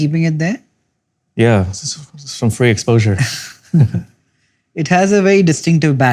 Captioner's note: chuckles